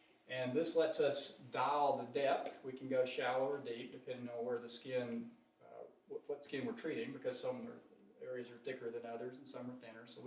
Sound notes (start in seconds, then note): none